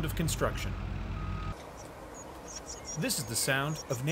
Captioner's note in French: bruits de machines